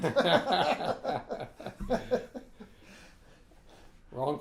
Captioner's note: laughing